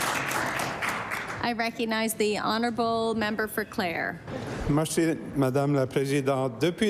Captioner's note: applause